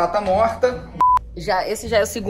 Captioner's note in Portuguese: som de bipe